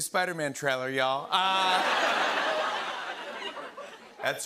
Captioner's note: laughter